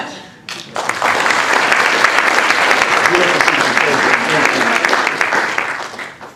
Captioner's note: applause